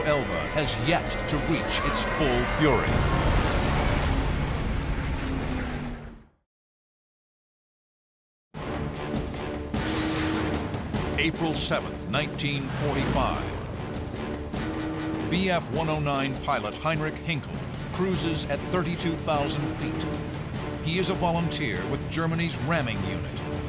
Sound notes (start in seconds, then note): 2.8 explosion; 9.9 dramatic music